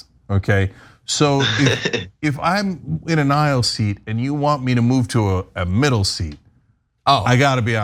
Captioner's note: laugh